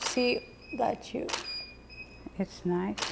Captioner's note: shutter clicking